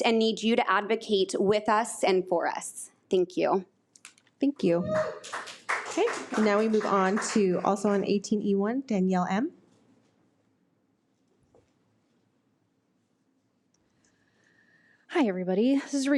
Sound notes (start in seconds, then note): 4.9 audience applauds